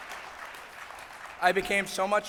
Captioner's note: applause